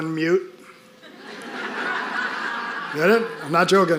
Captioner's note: audience laughing